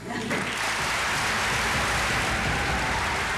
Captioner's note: cheers and applause